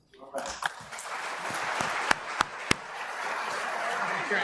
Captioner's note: applause